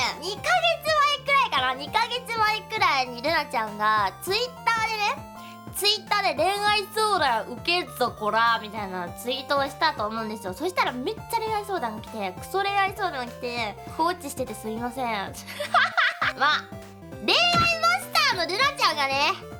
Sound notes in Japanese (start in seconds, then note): 15.5 爆笑